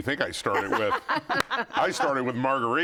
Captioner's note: laughing